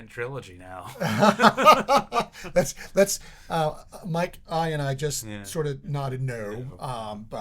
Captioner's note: laughing